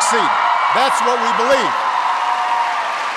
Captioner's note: applause